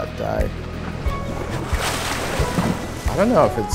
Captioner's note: dolphin exhales